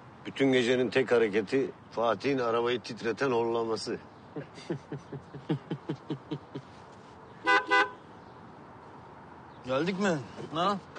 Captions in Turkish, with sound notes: Bütün gecenin tek hareketi, Fatih'in arabayı titreten horlaması. [gülerler] [korna çalar] Geldik mi? Ha?